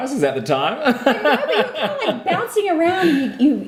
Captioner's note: laughing